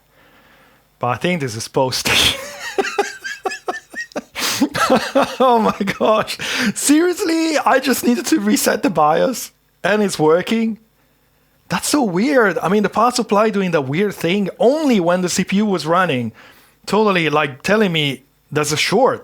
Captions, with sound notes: But I think this is supposed to. (laughing) Oh my gosh. Seriously, I just needed to reset the BIOS and it's working. That's so weird. I mean, the power supply doing the weird thing only when the CPU was running. Totally like telling me there's a short.